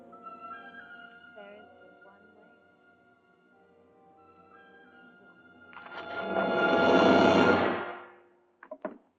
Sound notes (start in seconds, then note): 1.1 woman speaking, muffled